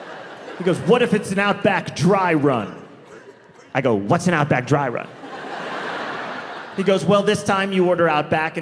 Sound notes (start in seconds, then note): 4.9 audience laughing